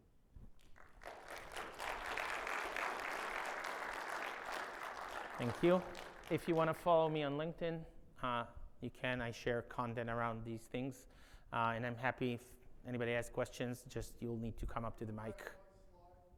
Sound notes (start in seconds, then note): 0.6 audience applauds